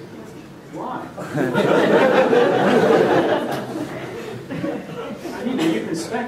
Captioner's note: laughter